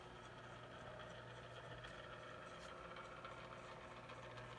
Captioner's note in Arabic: طنين المشواة